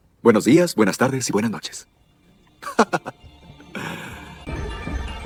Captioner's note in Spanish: risas